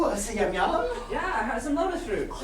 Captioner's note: speaking grammelot